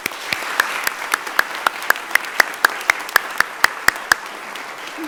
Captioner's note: audience applauding